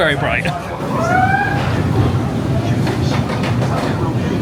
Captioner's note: riders hooting